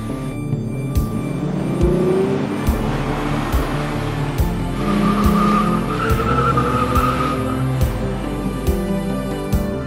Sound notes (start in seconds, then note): 0.0 engine revving; 4.4 tires screeching